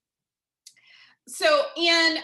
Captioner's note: silence